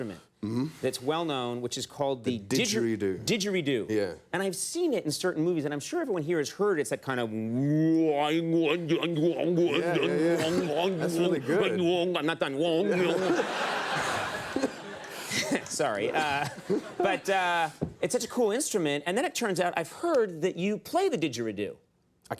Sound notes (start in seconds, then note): 7.4 imitates didgeridoo; 13.0 imitates didgeridoo; 14.6 audience laughter